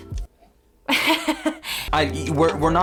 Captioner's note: laughs